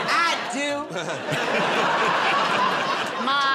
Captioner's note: laughter